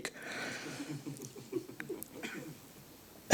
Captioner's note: audience giggling